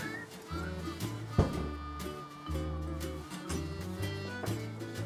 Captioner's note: thumping